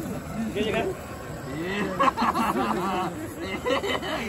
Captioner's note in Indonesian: Tertawa